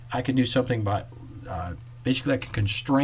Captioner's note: none